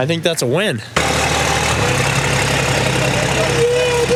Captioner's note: engine rumbles